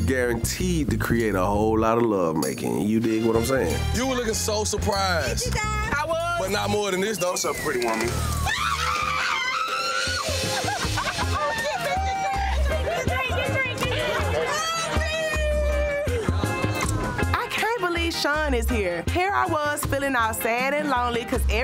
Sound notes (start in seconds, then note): 7.8 group screaming